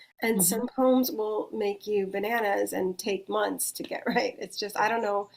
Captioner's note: chuckles